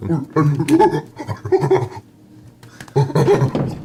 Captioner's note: gorilla noises